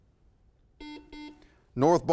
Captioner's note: buzzer